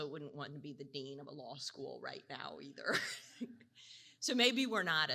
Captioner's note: laughs